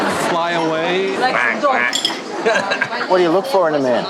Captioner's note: quacks, laughs